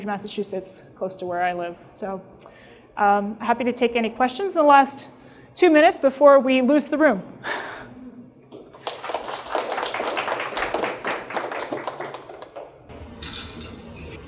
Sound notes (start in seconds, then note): 8.6 applause